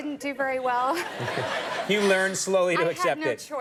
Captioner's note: audience laughing; Amy chuckling